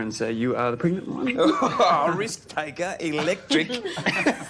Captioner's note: laughs